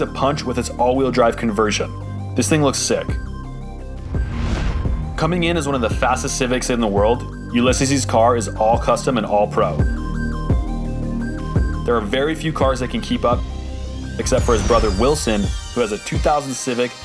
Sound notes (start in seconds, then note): 4.0 whooshing sound effect